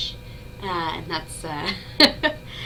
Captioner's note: laughs